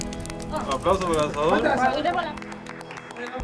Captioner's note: in Spanish